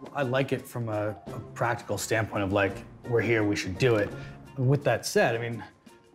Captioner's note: none